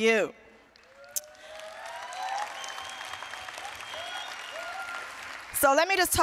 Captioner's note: applause, cheering